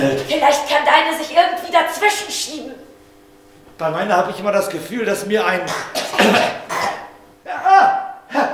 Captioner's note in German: hustet